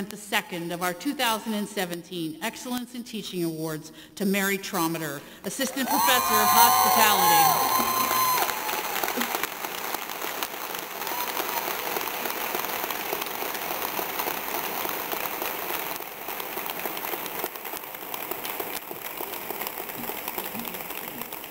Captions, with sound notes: the second of our 2017 Excellence in Teaching Awards to Mary Trometter, Assistant Professor of Hospitality. (audience cheering) (audience applauding)